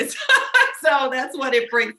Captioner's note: laughing